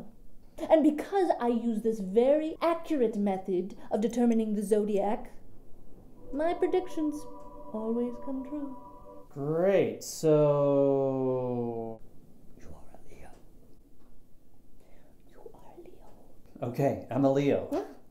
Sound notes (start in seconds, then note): 6.0 mystical humming; 12.3 whispers